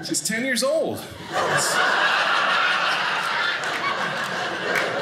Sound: audience laughing

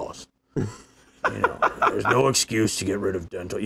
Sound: laughing

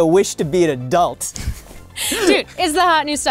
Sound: laughing

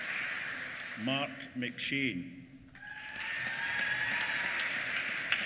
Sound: applause

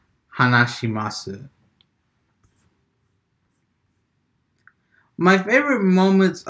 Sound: transitioning from japanese to english

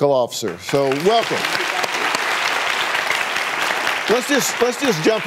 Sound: audience applauding

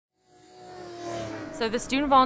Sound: racecar accelerating

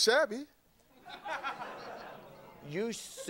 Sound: audience laughing

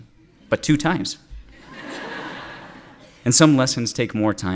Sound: laughter

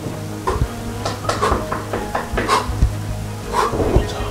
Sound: panting; knocking

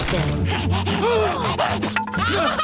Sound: gasping; laughing

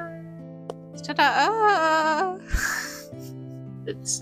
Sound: laughter

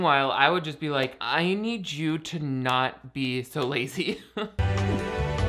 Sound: chuckles; bright music

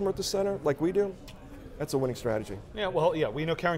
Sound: clicks tongue

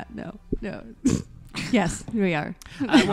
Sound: laugh

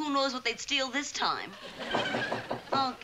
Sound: knocking on the door

